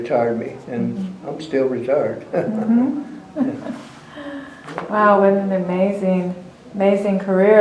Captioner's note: laughs